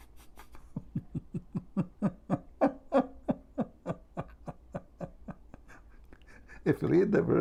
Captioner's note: Ketawa